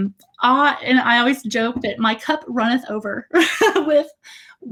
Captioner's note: laughs